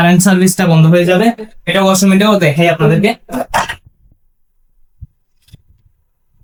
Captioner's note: clears throat